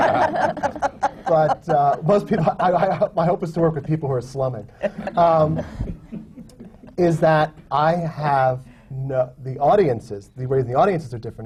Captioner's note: laughter